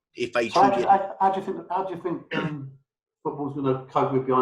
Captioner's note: murmuring